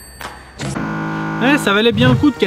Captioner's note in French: Buzz d'erreur